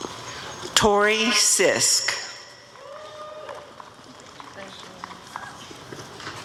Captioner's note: applause and cheering